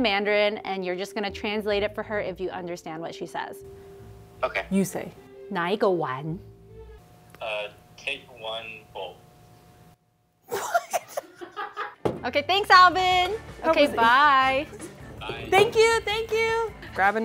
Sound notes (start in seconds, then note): 6.1 speaking in mandarin; 10.5 everyone laughs